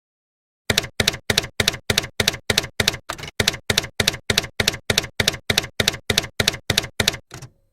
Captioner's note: typewriter key clacking